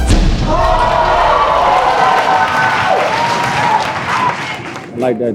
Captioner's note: spectators applauding